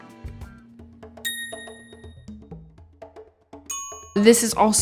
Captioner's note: upbeat music; phone dinging